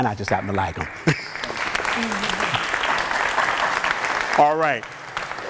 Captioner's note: applause